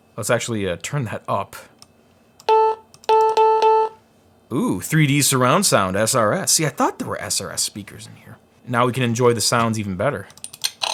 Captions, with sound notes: Let's actually turn that up. (beeping) Ooh, 3D surround sound, SRS. See, I thought there were SRS speakers in here. Now we can enjoy the sounds even better.